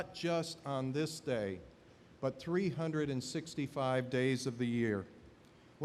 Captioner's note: none